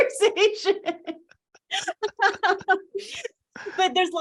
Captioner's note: both laugh